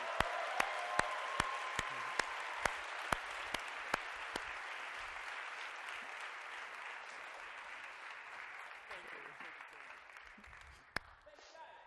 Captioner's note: applause